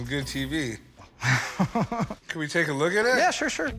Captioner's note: laughs